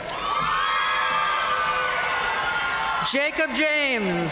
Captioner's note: audience cheering and applauding